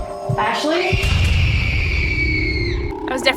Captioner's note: children screaming